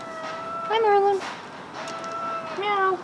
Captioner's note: meow!; Merlin meows loudly